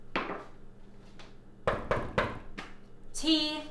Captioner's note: knocking